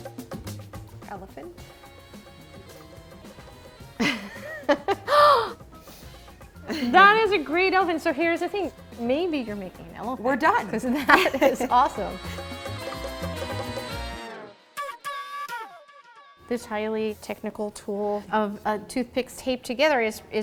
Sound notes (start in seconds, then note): 3.9 laughs and gasps; 12.2 festive music